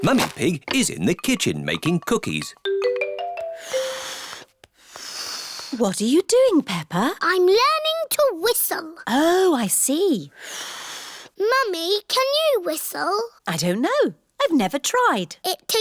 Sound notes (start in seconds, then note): 3.7 failed whistle; 10.6 blows